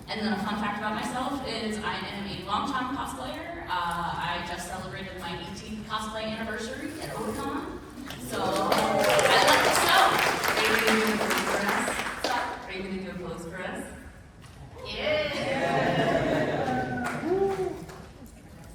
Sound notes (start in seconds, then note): 8.1 applause; 16.6 applause